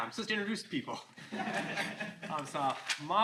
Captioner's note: all laughing